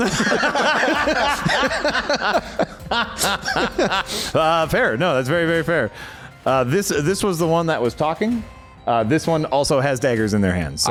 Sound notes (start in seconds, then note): 0.0 laughter